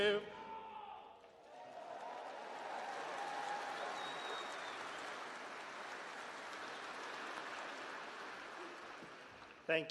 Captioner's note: applause